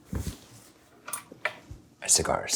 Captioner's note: humidor handle clinking